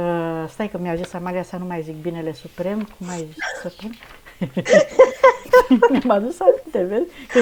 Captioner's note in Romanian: râsete